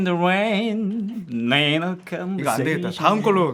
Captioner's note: heavy with nasal tone